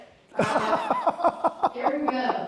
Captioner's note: laughs